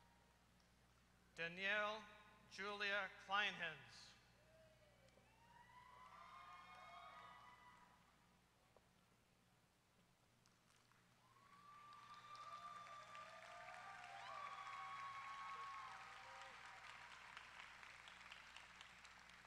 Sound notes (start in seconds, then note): 4.2 applause